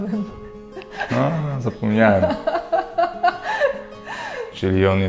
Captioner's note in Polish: śmiech